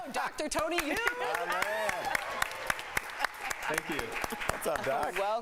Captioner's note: laughter